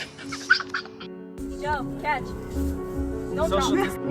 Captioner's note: laughing